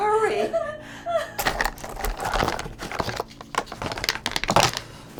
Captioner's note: bullets rattling